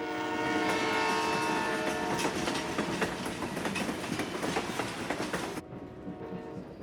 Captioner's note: horn blares; train rattles